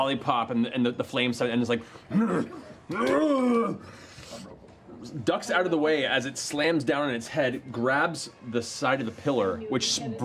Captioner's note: angry grunting